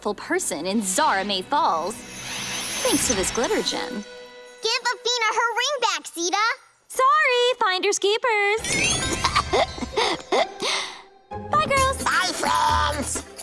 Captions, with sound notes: in Zahramay Falls... thanks to this Glitter Gem. Give Afina her ring back, Zeta. Sorry! Finders, keepers. [coughs] -Bye, girls. -Bye, friends.